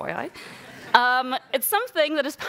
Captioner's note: audience laughing